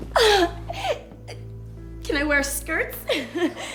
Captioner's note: squeals